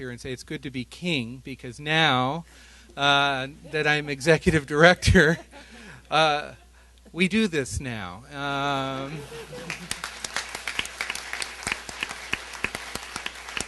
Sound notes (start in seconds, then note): 9.0 laughter; 9.5 applause